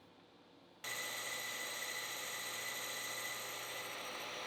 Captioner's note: machine spinning